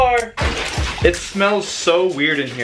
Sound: milk splashing

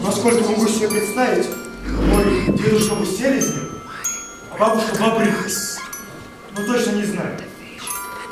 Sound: speaking in Russian

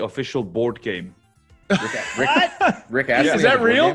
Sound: laugh

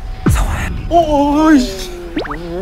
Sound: ohhhh

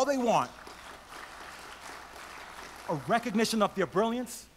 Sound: audience applauds

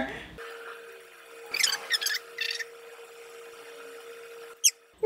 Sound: videotape squeaking

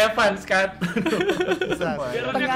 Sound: laugh

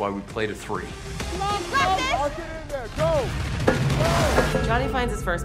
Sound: yelling and cheering

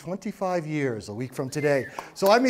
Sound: whistle and applause

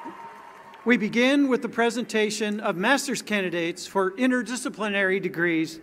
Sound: cheering

